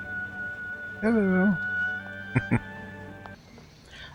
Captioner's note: chuckling